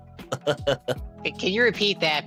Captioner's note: laughing